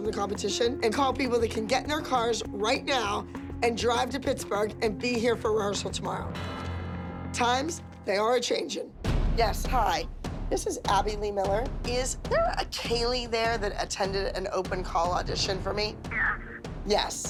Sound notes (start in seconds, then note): 15.4 on phone